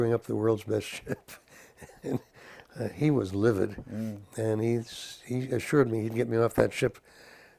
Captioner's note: laugh